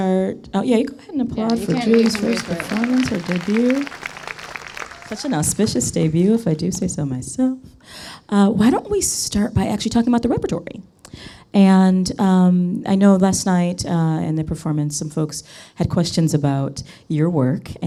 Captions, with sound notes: Oh yeah, you go ahead and applaud for Julie's first performance (audience applauds) - Her debut. Such an auspicious debut if I do say so myself. Why don't we start by actually talking about the repertory. And I know last night in the performance some folks had questions about your work